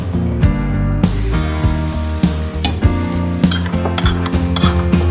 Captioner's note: skillet sizzles; masher clanks